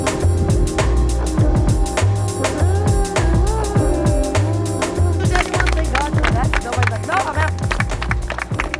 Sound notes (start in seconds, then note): 5.2 clapping